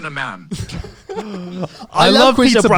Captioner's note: laughs